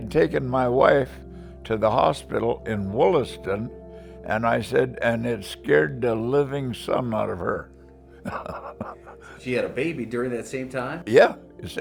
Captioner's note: laughs